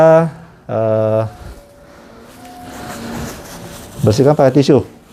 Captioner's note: bell ringing